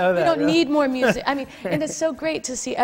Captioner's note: laughs